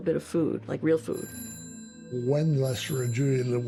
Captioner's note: telephone ringing